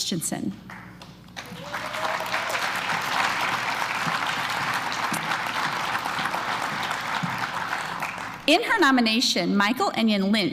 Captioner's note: applause